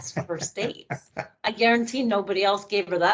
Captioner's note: laughing